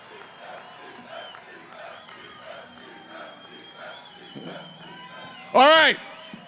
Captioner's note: cheering; hooting